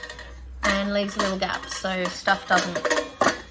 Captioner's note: clatter; clatter; more clatter